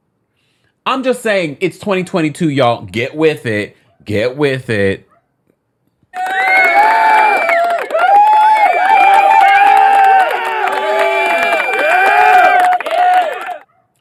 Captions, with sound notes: I'm just saying it's 2022, y'all. Get with it. Get with it. (dog barking) (crowd cheering and applauding)